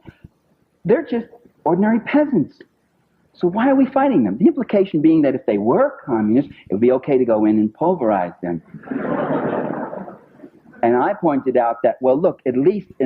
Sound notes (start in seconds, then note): 8.7 laughter